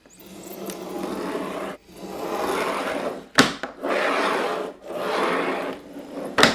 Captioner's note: metal cutter rolls loudly against cardboard